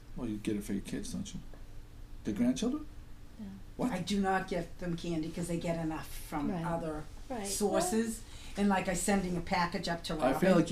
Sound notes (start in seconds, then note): 0.1 voiceover